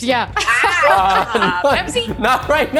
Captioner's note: laughing